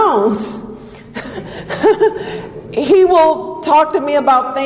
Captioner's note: laughs